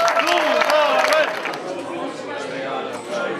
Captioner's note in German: Stimmengewirr